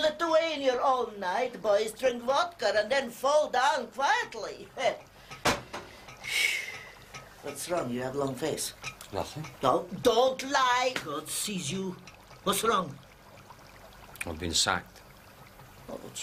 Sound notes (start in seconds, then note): 6.0 sighs